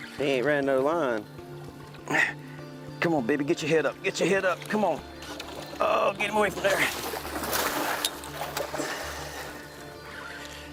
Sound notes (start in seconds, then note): 6.8 water splashing